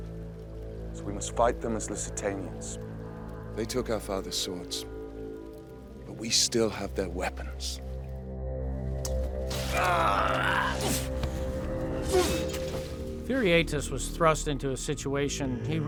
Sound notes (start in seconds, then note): 10.2 shouts